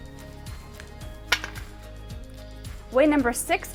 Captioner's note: chickpea clatters to cookie sheet